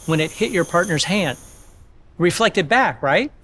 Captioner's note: slinky rattles